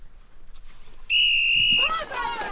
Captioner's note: whistle sounds